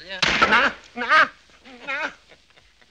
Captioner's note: yelling